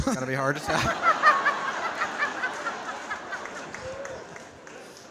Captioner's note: audience laughing